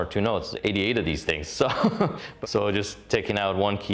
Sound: chuckles

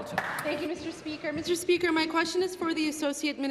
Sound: applause

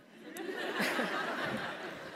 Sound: laugh

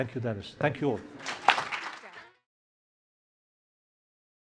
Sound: applause

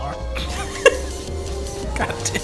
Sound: laughs

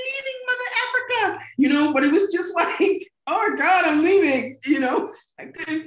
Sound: laughing

